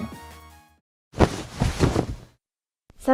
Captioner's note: ruffling of curtains